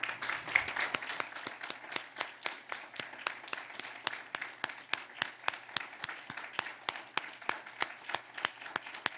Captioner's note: applause